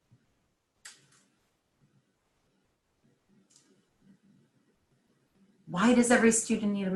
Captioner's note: silence